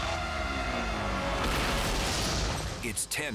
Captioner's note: crashing